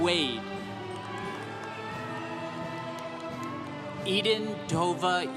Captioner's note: congregation cheering